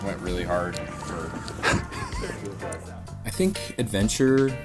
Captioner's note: cameraman laughing